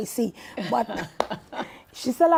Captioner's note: laughing